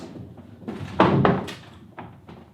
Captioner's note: skateboard thudding